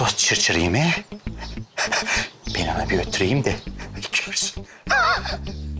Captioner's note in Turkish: Gülme sesi; Gülme sesi